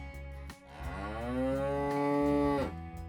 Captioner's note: cow Moo